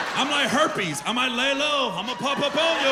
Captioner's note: laughter